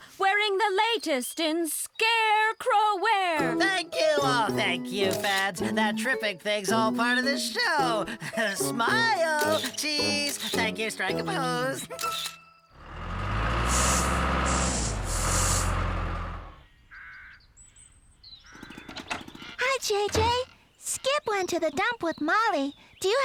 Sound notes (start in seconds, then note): 12.7 engine Running